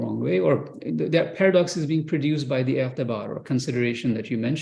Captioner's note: non-english